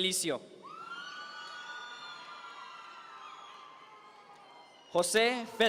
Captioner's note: audience members cheer